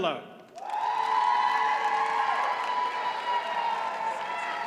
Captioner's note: audience cheers and applauds